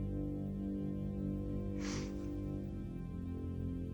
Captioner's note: sniffles